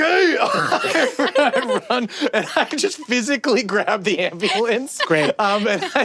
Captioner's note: laughs